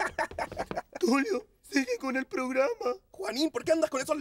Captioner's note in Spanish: Con voz normal